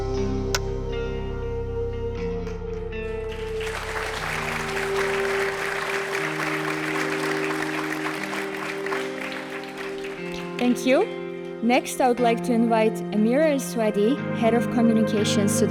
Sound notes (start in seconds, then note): 3.1 audience applauding